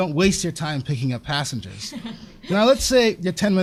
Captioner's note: laughter